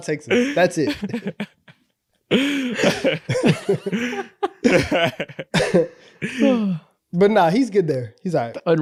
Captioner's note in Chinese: 一陣歡樂的笑聲